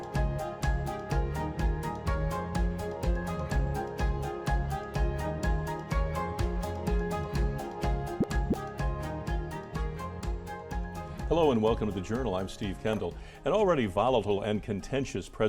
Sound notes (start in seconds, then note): 8.1 graphic pops